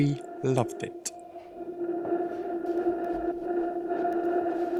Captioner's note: howling wind noise